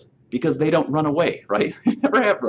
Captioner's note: laughing